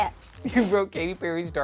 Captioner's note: laughs